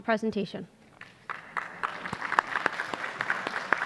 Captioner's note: applause